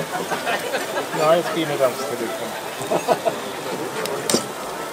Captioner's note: laughter of a visitor